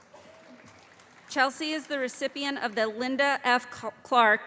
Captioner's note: calling Graduate Names